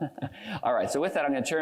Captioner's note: laughs